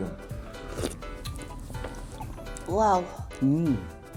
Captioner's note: slurping